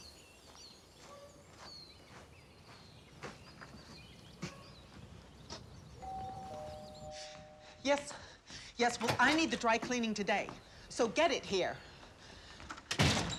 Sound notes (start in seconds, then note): 6.0 doorbell Rings